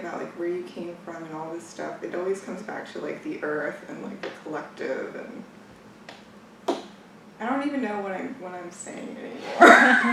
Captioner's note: laughs